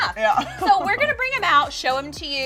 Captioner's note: laughs